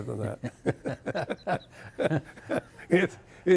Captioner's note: both chuckling